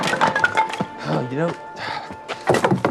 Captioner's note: sighs